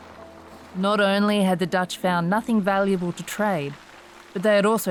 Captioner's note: waves gently splashing